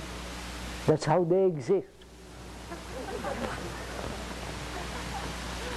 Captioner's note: laughter